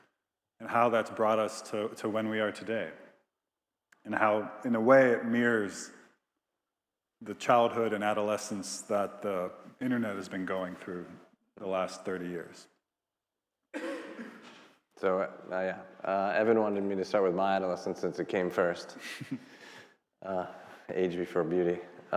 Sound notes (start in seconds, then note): 13.7 attendee coughing; 18.9 laughing